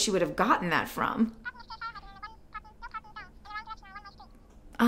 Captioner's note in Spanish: voz por teléfono